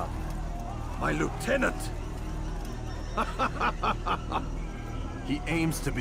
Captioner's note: laughs